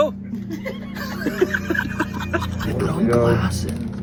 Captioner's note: laughing